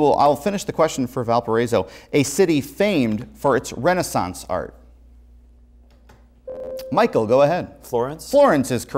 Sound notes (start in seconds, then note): 6.5 buzzer